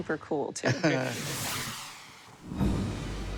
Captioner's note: laughs